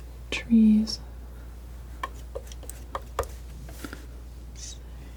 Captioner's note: tapping